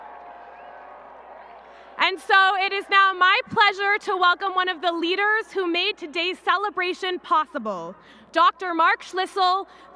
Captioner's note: applause and cheering